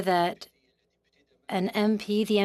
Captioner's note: speaking French